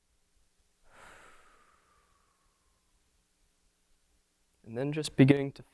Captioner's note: deeply exhaling